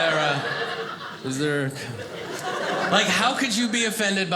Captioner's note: audience laughing